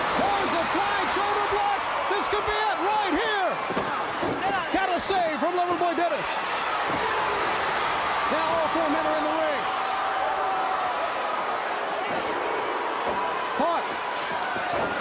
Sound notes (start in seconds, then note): 0.0 crowd cheering; 5.6 crowd cheering